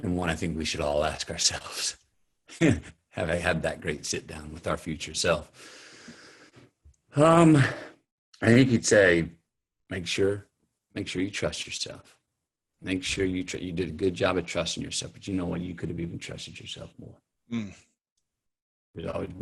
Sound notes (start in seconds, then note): 2.6 chuckles